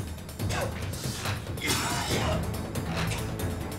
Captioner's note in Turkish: Öksürme sesi